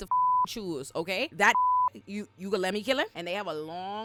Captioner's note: beep